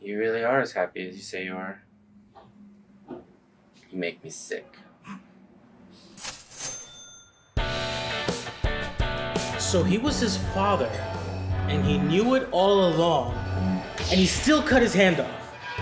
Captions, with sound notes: You really are as happy as you say you are. You make me sick. (cash register cha-ching) (upbeat music) - So, he was his father and he knew it all along, and he still cut his hand off?